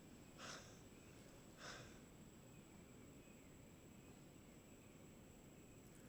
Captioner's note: birds chirping; Daniel exhaling